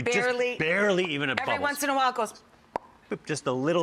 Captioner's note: bubble burst